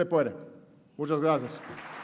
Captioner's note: applause